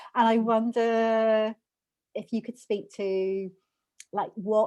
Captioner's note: none